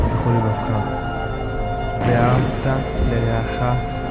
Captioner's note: en hebreo